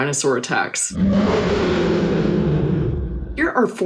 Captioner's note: dinosaur roars